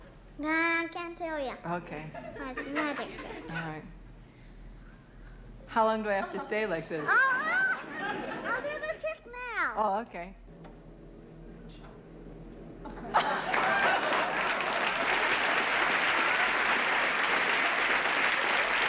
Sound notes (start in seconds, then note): 2.1 laughter; 12.5 groaning